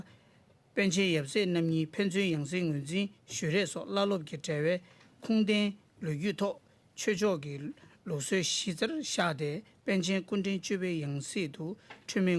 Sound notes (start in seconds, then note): 0.7 speaking Alternate Language